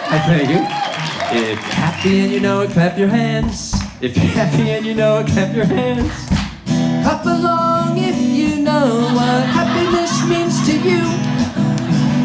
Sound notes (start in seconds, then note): 5.8 crowd claps